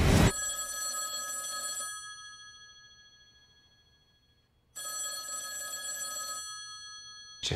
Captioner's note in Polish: dzwonienie telefonu